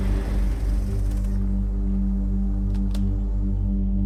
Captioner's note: engine stops